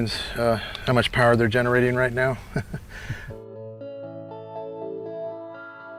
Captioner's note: chuckling